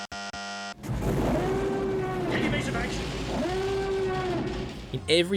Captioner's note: alarms